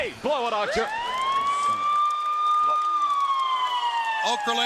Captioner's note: siren wails